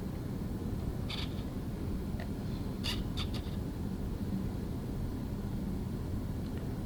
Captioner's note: medical device makes clicking noises